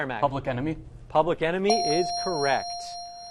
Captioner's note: ding